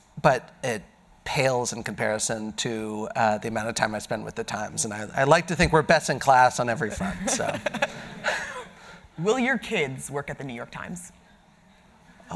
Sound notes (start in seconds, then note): 6.9 audience laughing